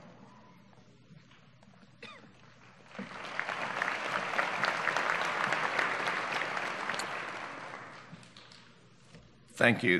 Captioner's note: applause